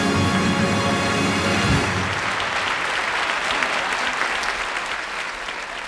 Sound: audience applauding

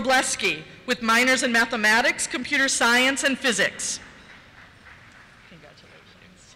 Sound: applause

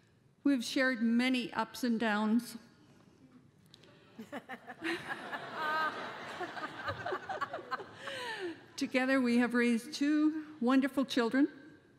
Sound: laughter

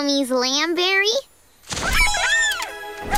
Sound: chirping

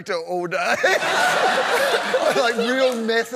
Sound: laughter

